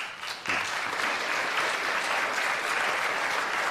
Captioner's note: applause